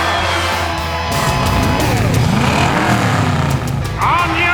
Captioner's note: engines rumbling